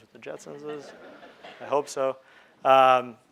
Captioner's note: crowd laughing